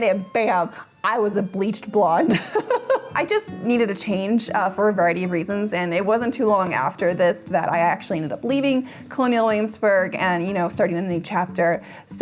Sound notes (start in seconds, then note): 2.3 chuckles